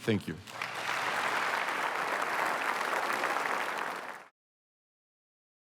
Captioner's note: applause